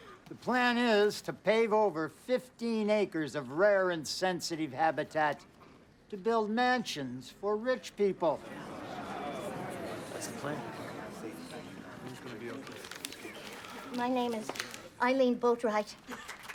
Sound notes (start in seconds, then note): 8.3 crowd murmuring; 16.0 clapping